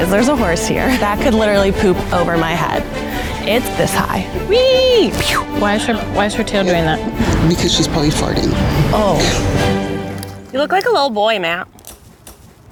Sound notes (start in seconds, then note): 4.9 whooshes